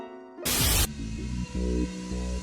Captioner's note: white noise